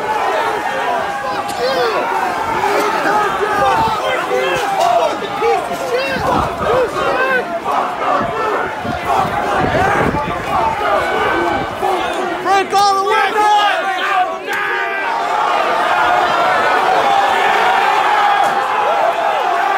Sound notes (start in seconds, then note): 2.2 crowd yelling; 6.5 crowd; 15.7 crowd yelling